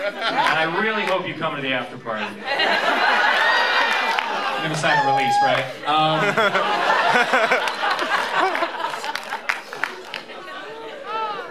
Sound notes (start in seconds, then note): 5.9 laughter